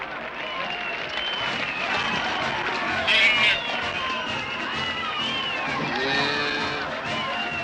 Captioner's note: crowd cheering and whistling